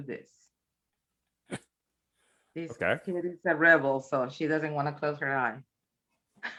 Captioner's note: chuckles